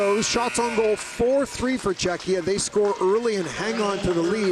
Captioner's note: buzzer